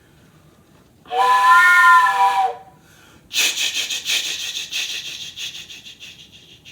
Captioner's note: whistle blowing